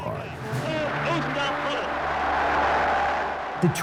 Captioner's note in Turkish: Kalabalık tezahürat ediyor